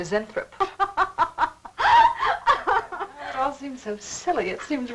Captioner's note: laughing